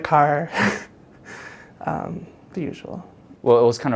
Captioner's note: chuckles